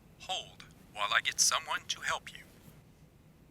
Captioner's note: voiceover